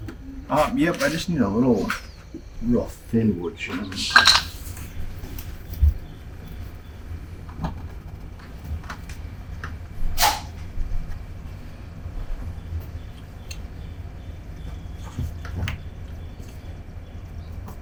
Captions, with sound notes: Ah, yep, I just need a little rough thin wood jams. (wood jams clattering) (bird twittering) (bird twittering)